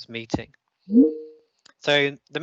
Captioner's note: computer pings